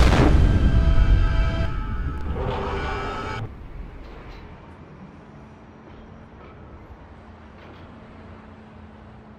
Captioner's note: explosion